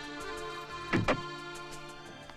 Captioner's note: door opens